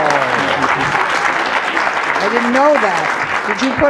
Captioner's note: audience applauding